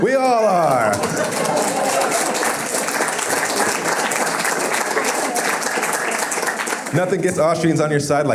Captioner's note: applause